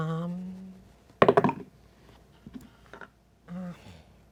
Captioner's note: dice thud